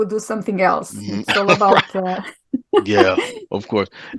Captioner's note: laughing